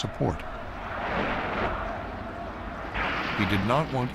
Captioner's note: clamoring continues